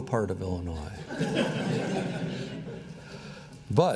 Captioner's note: laughter